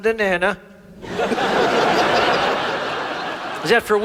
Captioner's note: audience laughs